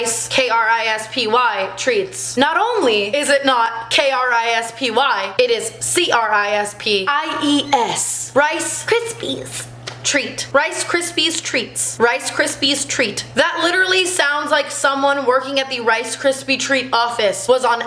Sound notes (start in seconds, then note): 7.2 cri